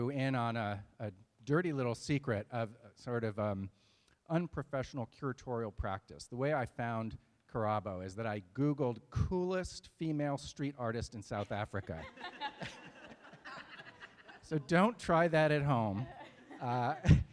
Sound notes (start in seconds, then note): 11.4 laughter